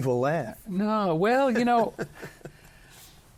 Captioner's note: chuckling